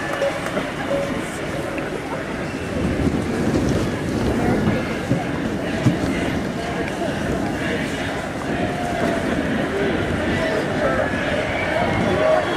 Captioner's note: Crowd chants: Richard, Richard!